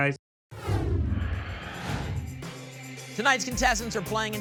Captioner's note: whoosh